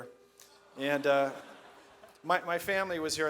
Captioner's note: audience laughs